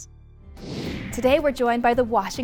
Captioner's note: tranquil music; screen whooshing